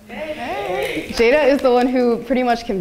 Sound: audience applauding

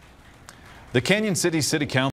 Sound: applause

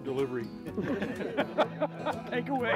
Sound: laughing

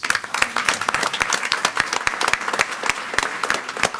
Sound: all applaud

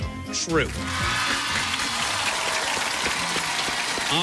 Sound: cheers and applause

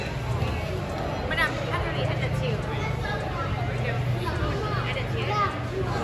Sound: customers chattering in background

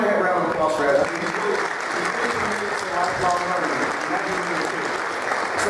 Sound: applause

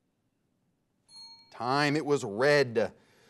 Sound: bell rings

